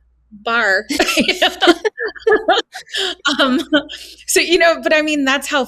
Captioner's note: all laughing